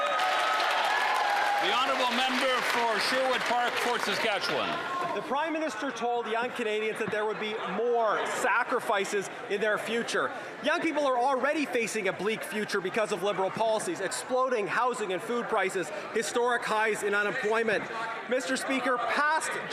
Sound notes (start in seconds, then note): 4.6 some Applause